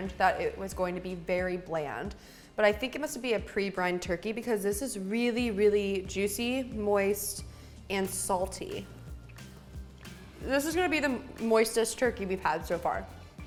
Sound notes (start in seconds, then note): none